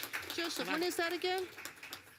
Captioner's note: applause